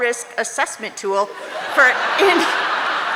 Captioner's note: audience laughing